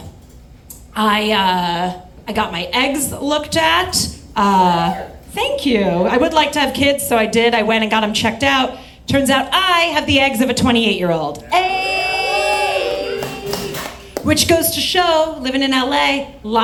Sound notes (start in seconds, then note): 11.4 audience cheers